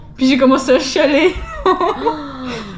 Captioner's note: laughs